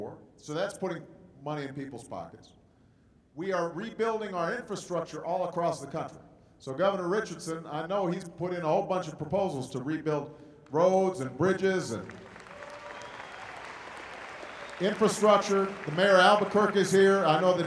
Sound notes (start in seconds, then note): 11.9 applause